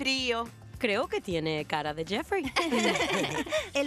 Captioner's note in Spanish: riendo